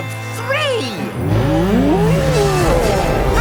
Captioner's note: bellowing; laughing